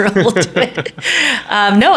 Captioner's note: laughing